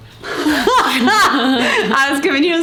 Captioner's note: laughs